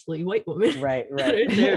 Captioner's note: laughter